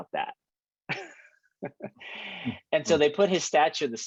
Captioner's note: chuckles